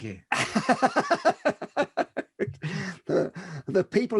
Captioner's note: laughs